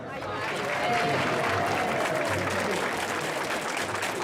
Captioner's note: applause